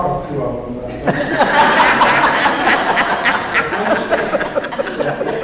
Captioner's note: audience laughs